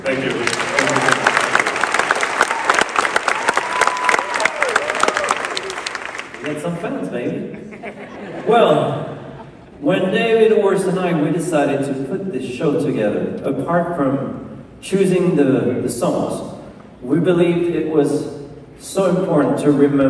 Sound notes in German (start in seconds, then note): 1.7 Menge jubelt